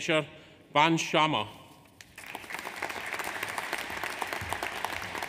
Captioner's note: audience applauds